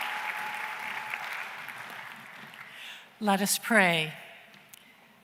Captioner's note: cheering and applause